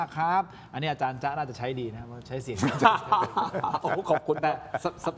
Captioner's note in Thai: เสียงหัวเราะ